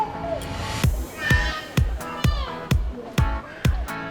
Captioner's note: baby crying